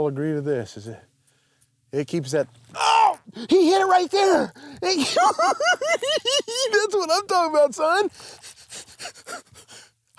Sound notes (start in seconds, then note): 4.8 giggles